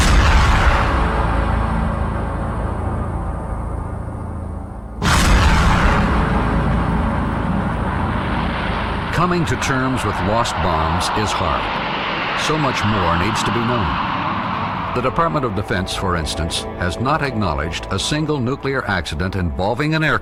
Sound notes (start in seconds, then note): 0.2 dramatic music; 5.6 engine droning